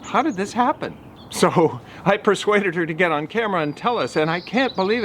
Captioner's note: chuckles